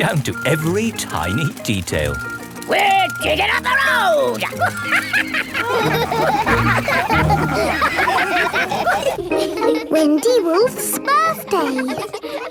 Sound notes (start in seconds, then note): 4.5 chuckles; 6.3 all laugh